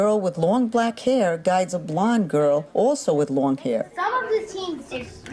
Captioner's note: chattering